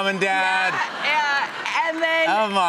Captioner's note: laughter